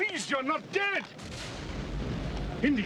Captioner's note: explosion booms in distance